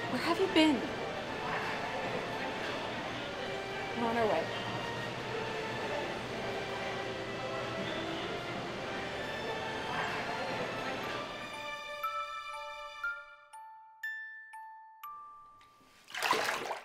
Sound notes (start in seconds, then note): 0.5 answering the phone, hushed; 4.1 hushed